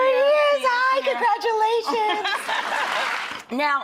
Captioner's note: laughs